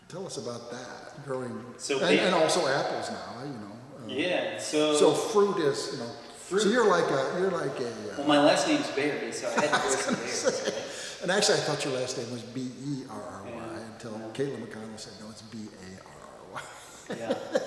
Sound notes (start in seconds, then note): 9.3 laughs; 16.6 laughs